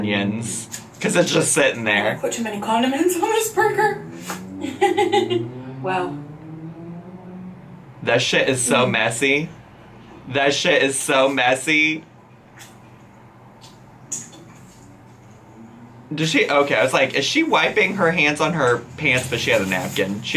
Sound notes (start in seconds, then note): 4.3 laughing